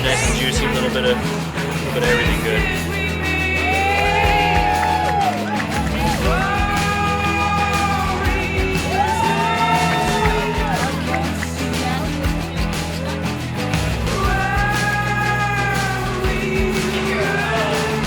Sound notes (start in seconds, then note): 4.3 cheering